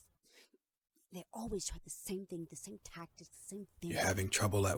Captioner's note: voices getting louder